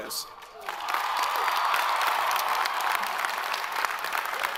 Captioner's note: all applaud